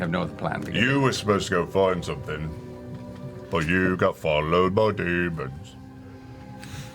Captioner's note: singsong